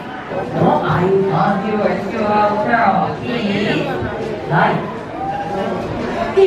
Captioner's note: speaking in foreign language